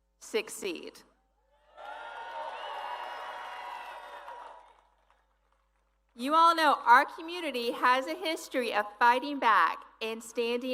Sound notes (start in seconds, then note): 3.9 applause